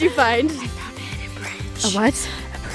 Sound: whispers

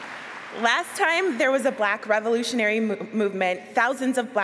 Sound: applause

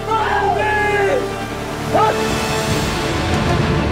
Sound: shouting

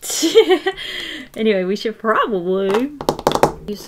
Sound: laughs; tapping

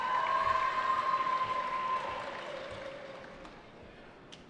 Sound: cheering

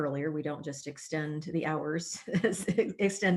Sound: laughter

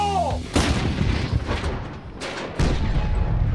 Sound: cannon banging

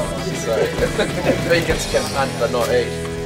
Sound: laughs

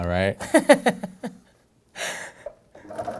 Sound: laughing

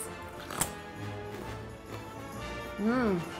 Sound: crunch

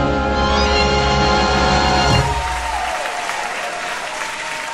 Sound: audience applauding

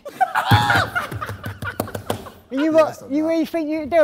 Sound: Sidemen laughing

